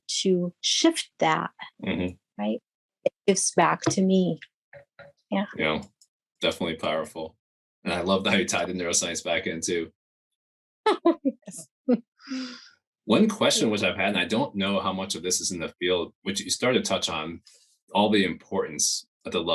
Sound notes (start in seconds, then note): 11.1 laughs